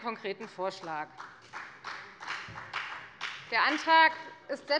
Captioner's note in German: Beifall bei der FDP und bei Abgeordneten der SPD